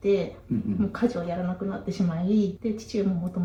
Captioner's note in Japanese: 咳払い